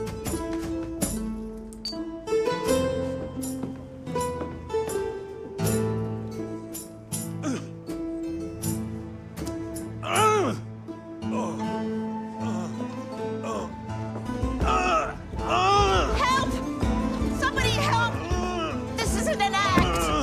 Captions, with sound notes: (Donald grunts) (grunts) - Help! Somebody help! This isn't an act!